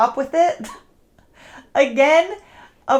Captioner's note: chuckling